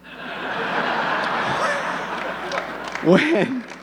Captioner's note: audience laughing; laughs